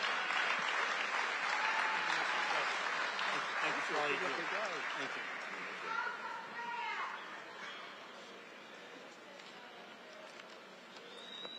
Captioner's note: applause